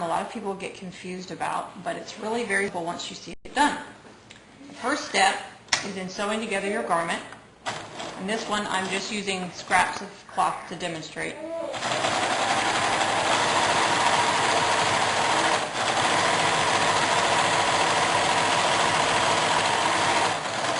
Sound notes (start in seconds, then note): 11.7 sewing machine stitching